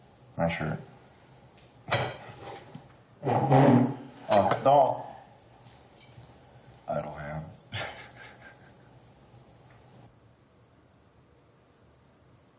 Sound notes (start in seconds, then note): 7.7 laughs